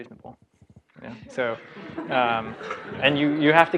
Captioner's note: laugh